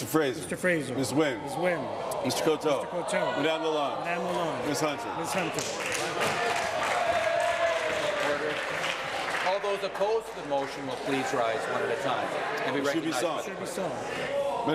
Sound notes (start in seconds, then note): 10.4 applause